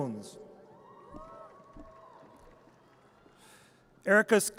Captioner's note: audience cheers